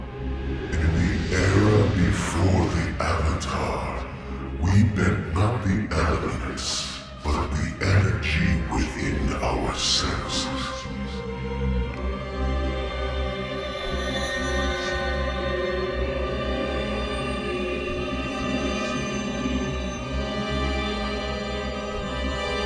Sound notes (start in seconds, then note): 10.8 chanting